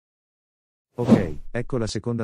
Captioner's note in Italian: FX - Whoosh - 03